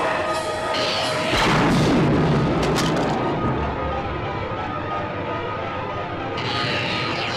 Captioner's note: electric zapping; loud exploding